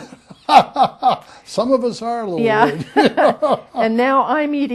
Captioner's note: laughter